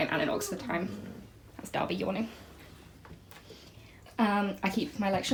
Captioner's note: yawn